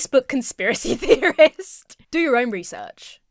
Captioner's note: laughs